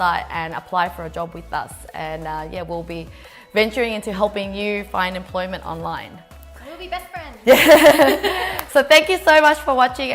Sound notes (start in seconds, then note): 7.5 laughing